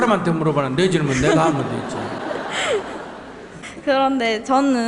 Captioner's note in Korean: 청중과 질문자 웃음